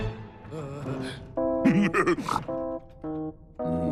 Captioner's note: idiotic laughing and snorting